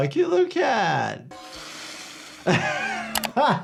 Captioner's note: cat hissing; Jordan laughing